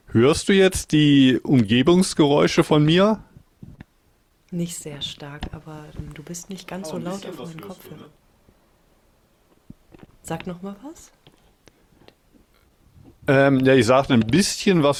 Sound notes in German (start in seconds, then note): none